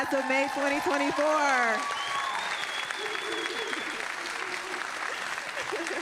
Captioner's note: audience applauding and cheering